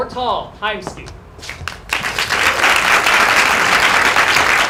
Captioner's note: applause